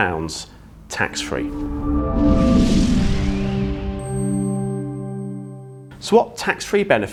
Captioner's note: gentle music; graphics whooshing